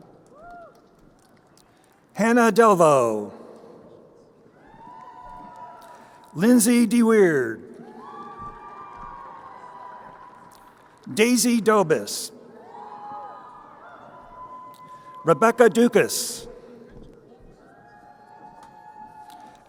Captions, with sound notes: Hannah Delvo. (crowd cheering) Lindsey DeWeerd. (crowd cheering) Daisy Dobis. (crowd cheering) Rebecca Ducas.